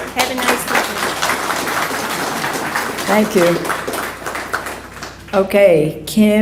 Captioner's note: applause